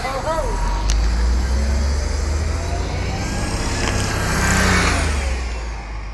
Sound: bus driving away

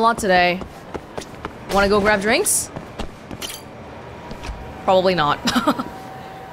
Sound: chuckles

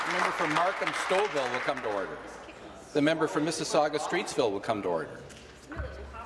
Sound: applause

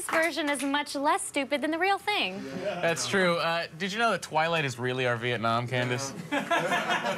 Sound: applause

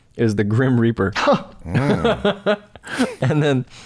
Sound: chuckles; laughter

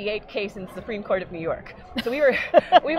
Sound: laughing

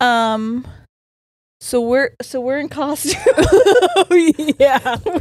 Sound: both laughing

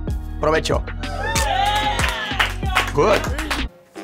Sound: cheers

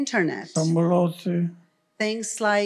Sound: foreign language

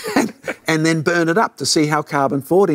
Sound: both laughing

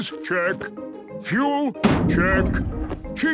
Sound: bangs

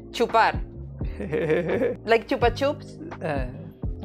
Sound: laughs

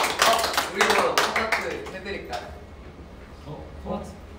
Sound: applause

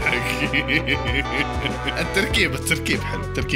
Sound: laughter

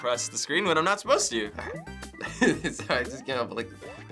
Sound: chuckles

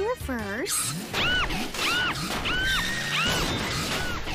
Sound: screams in demolition derby

